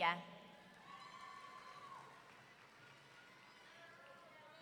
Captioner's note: audience cheering